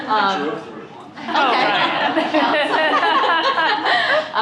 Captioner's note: laughter